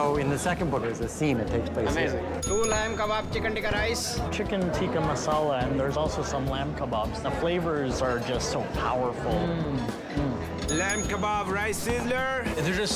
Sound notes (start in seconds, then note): 10.3 hums; 10.6 bell dings